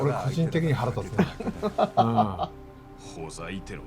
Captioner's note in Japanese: 笑い